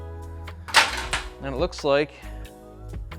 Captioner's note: metal clanging